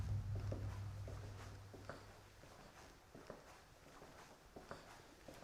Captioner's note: footsteps rustling